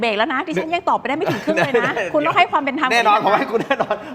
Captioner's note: laughs